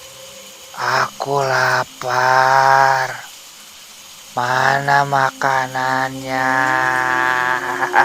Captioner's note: laughs